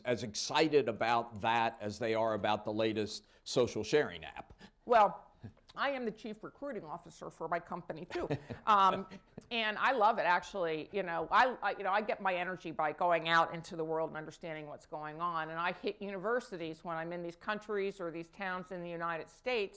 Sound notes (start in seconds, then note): 8.1 laughter